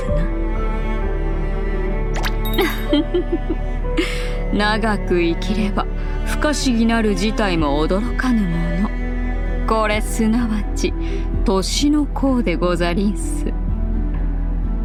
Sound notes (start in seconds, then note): 2.6 giggle